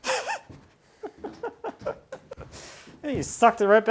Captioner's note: laughing